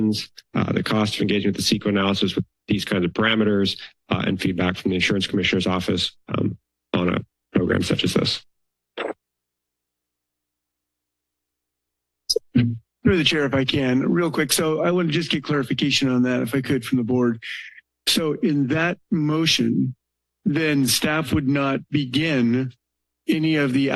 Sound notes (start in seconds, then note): 8.6 silence